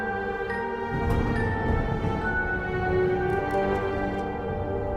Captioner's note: thunder booms